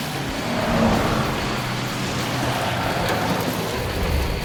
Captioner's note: tires squealing